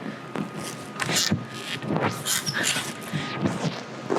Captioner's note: bar creaks